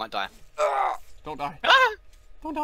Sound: girly scream

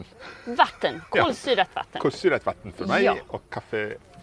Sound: speaking Swedish

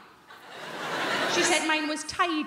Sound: crowd laughing

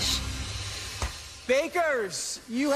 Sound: door thunks shut

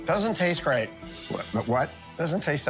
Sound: stutters

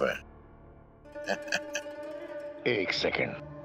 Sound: laughing

